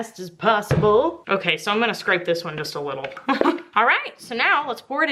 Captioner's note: laughs